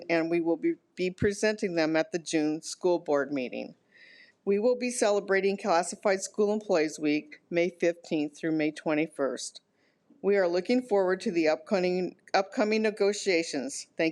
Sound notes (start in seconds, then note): none